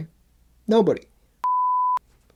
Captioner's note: beep